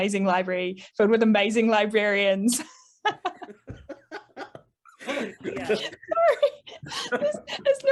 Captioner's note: all laugh